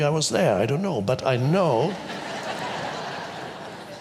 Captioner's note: audience laughs